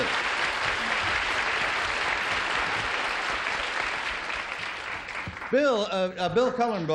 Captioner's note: applause